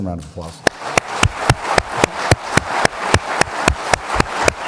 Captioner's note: audience clapping; clapping